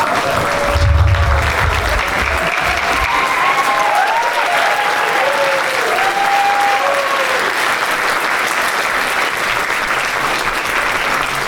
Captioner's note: applause